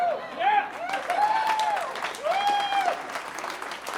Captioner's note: audience cheering